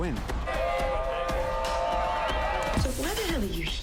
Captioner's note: crowd cheering